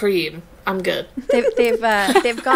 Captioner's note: laughing